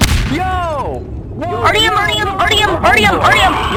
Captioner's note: Gmod sounds